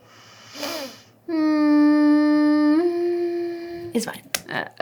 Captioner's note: humming